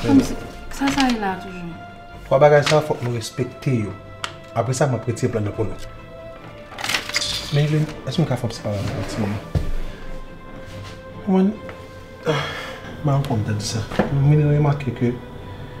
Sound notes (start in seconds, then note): 6.6 sucking teeth; 12.2 sigh